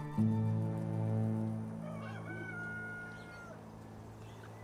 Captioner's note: rooster crowing